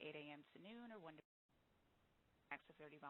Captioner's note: audio break